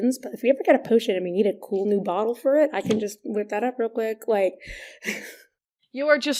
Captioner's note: laughs